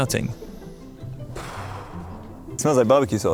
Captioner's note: sniffs deeply; exhales